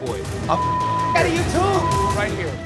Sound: beep

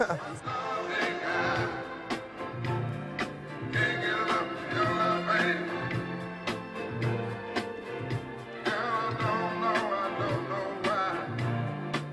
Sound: laughter

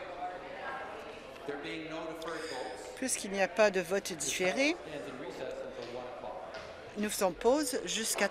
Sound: conversation din

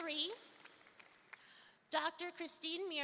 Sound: audience applauding

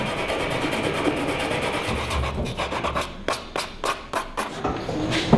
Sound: sanding sound

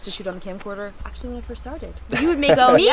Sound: light laughter

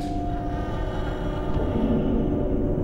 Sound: creaking

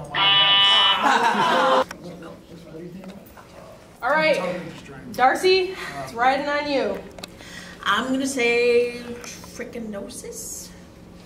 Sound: wrong answer buzzer

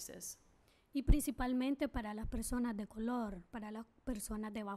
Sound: speaking spanish

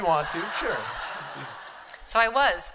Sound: laughter

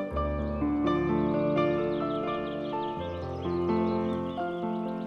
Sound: birds chirping

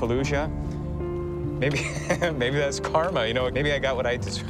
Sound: laughs

